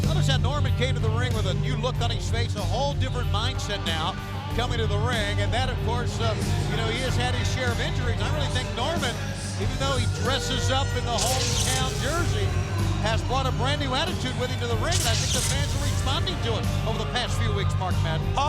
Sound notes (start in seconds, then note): none